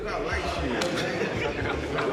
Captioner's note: laughs